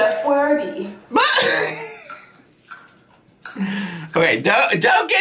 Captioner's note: laughing